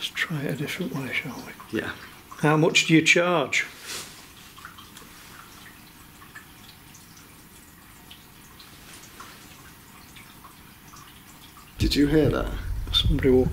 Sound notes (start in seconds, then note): 4.8 running water